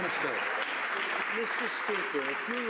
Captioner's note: some Applause